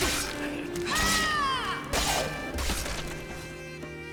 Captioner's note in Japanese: 叫び声